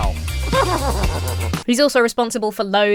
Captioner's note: horse whinnies